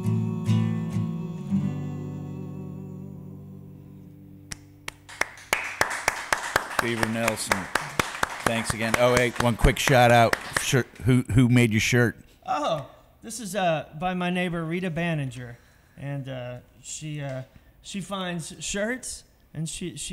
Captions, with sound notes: (crowd applauding) - Beaver Nelson. Thanks again. Oh, hey, one quick shout out. Shirt, who made your shirt? - Oh, this is by my neighbor, Rita Banninger and she finds shirts and she sews things on the pockets